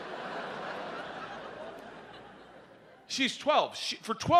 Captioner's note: audience laughs